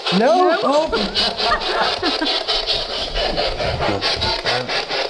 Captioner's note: all laughing